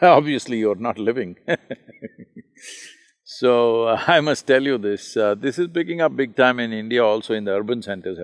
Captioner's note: laughs